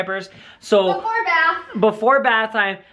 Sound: voiceover

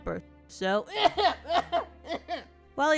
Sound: exaggeratedly coughing

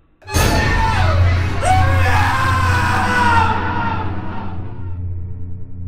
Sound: screaming

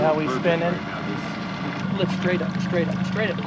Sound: boat engine idling

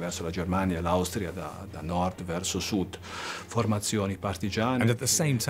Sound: speaks in foreign language

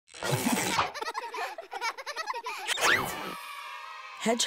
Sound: kids laughing

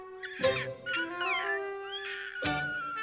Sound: panting

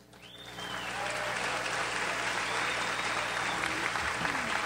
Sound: audience applauds

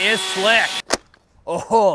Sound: click

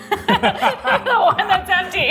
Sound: both laughing

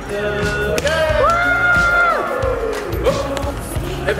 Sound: cheering

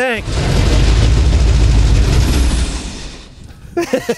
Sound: engine turning; laughing

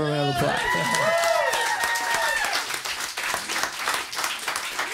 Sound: cheering, clapping

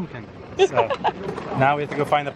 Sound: laughter

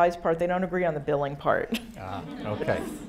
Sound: laughs; audience applauding

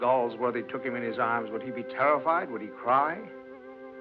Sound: none

